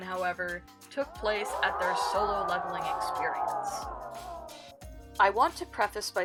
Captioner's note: people scream